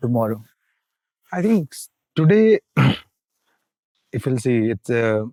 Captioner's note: clears throat